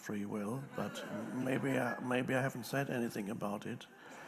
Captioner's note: audience laughs